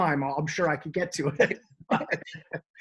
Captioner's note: laughs